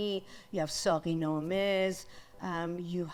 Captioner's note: speaks in foreign language